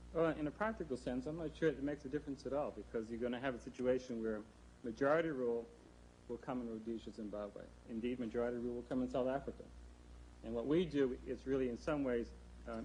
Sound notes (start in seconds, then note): none